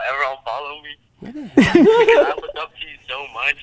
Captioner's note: group laughter